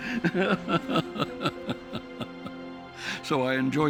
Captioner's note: laughing